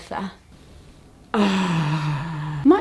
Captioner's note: sigh